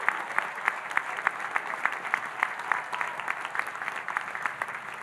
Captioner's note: audience applauding